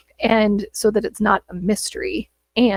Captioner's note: none